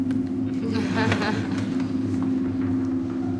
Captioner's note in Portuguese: Risadas